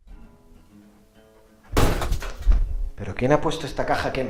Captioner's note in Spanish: Se tropieza con algo y hace ruido